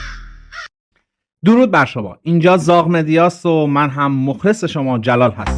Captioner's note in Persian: صدای جیغ